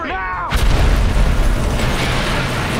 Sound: explosion

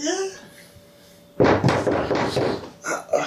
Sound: knock on the door

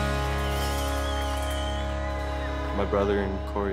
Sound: cheering

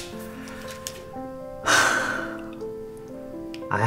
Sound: exhale

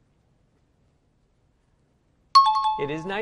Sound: bell rings

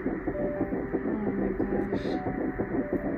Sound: muffled heartbeat

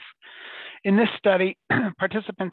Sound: clears throat

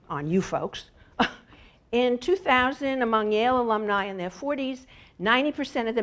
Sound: laugh

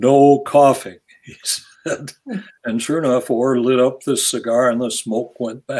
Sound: laughs

